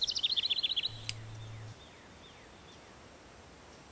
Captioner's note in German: Scherengeräusche